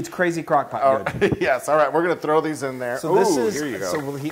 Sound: laugh

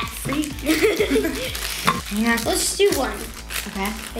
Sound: laughing

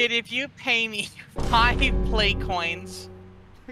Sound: death knell

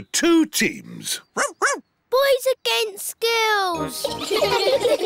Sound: barks; all giggling

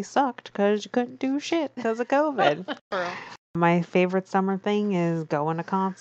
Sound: laughs

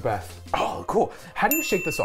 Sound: bell dings

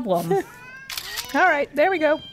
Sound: camera noise

